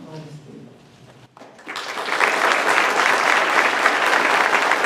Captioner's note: applause